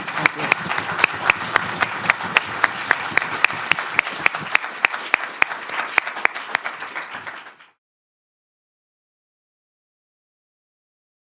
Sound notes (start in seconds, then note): 0.0 applause